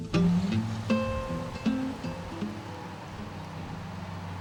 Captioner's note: wind howling